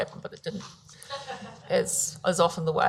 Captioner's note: audience laughs